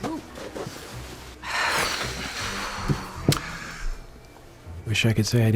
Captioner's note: sighs heavily